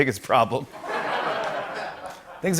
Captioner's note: laughter